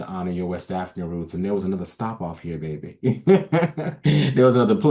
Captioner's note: laughs